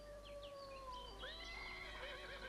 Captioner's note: birds chirping; horse neighs